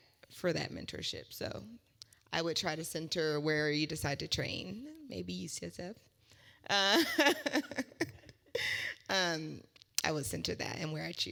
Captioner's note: laugh